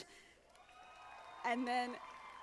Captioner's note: audience applauding